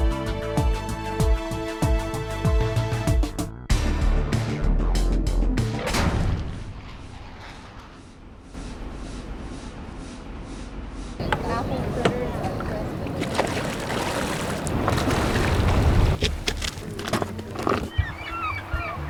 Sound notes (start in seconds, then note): 11.2 water Sounds; 15.3 nature Sounds